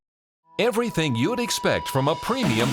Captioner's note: voiceover